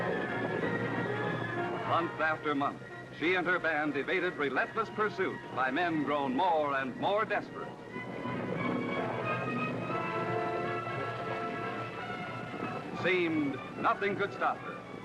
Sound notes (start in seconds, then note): none